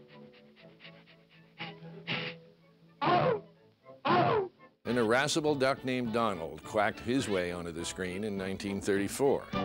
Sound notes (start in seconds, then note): 0.1 sniffing; 4.0 sneezing